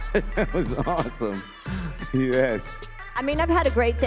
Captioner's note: laughs